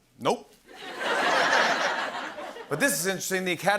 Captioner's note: laughter